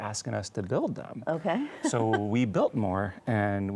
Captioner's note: chuckles